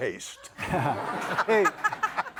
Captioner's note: audience laughing